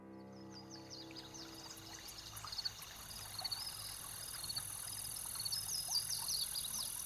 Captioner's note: birds chirping; water splashing